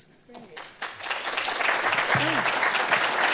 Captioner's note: audience applauding